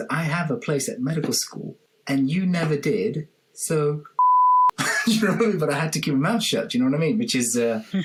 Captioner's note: beep sound